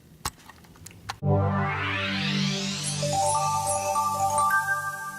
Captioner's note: digital tones